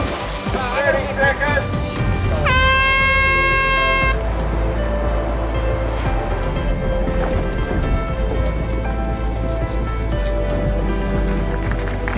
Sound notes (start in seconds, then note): 0.0 water splashing; 2.2 horn blasting signaling start of tournament